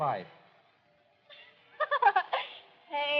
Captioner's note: laughs